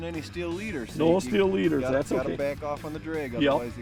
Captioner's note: voiceover